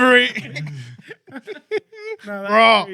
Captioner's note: laughing